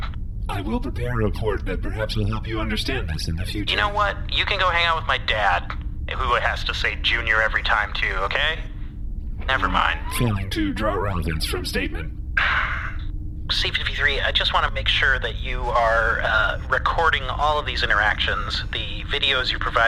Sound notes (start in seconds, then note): 12.4 deep sigh